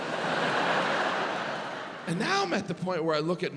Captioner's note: audience laughs